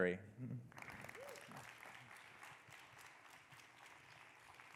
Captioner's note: audience clapping